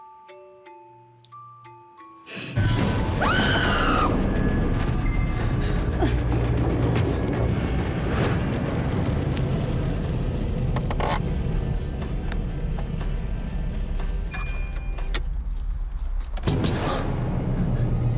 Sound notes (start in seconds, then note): 3.0 screams; 6.1 suspenseful music